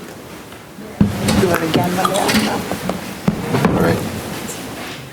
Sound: people chattering

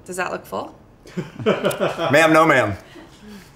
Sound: laughs

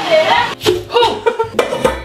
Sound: laughs

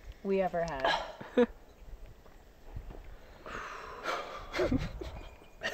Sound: chuckling; sighing

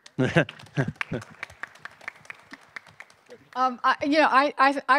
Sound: attendees clapping

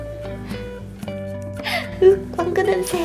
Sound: smelling

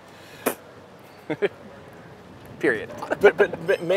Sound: chuckles

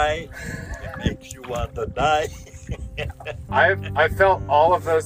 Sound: laughs

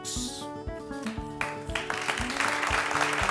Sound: ^applause^

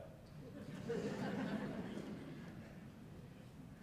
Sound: laughter

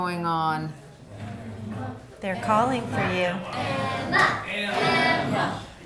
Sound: party crowd chants Emma's name

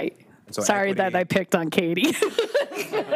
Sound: laughs

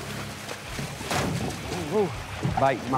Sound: splplashing; snanapping

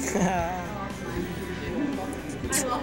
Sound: laughs; upbeat music

